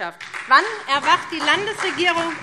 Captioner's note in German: Beifall SPD